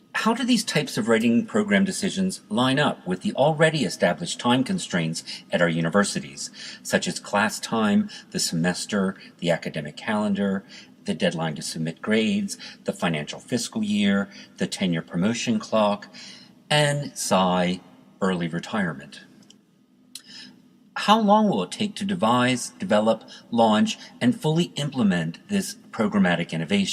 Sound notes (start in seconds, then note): 17.1 sigh